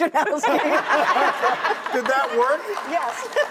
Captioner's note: laughter